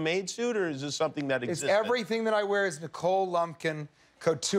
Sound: laughter

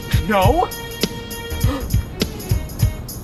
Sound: gasp

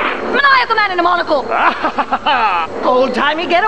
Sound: maniacal laugh

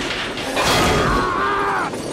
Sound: screams

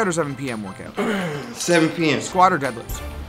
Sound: grunts

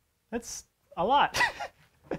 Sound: snickers

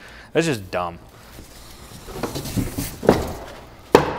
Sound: box clutters

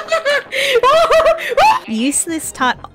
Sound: gasp

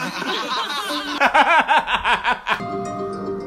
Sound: aggressive laughter

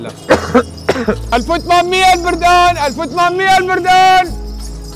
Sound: shouting

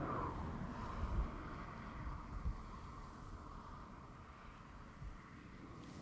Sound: wind whips, snow crunches

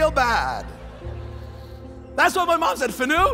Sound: congregation laughs

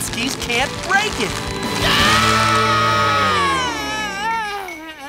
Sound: screaming

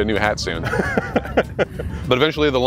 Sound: laughs

